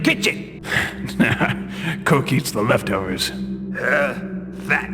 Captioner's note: laughs